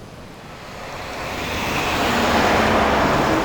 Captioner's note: truck approaching